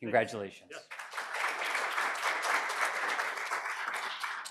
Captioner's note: applause